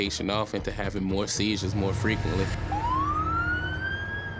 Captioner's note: siren wailing